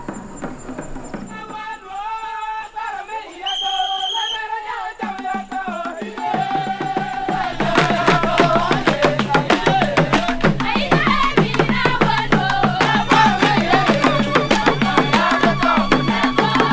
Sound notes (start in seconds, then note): 1.1 singing; 3.3 whistle